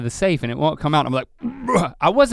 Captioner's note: grunts